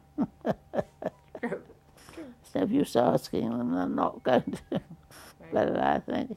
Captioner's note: chuckles